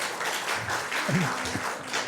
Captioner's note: applause